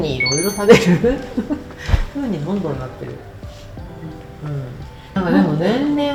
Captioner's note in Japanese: 笑い